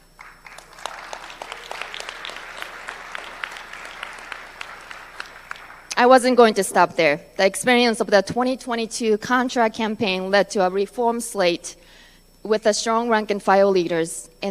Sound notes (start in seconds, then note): 4.1 applause